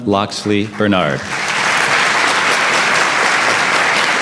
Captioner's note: applause